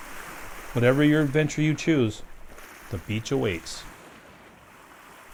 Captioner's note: waves